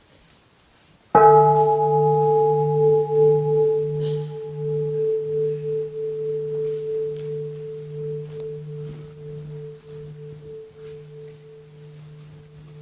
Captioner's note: the bell is invited to sound